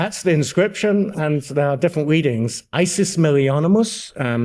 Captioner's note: speaks in Latin